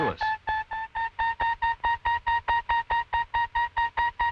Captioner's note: loud rapid ping